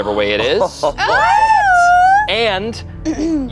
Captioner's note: group chuckles